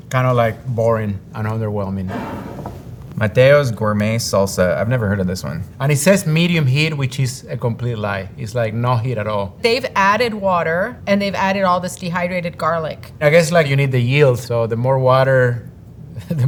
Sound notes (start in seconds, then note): 2.0 jar sliding